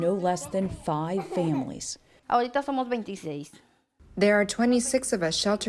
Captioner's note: through translator